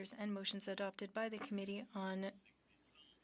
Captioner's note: speaking French